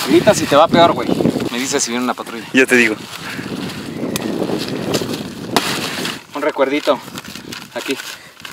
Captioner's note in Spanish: golpe